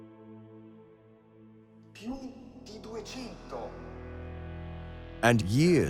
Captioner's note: speaking Italian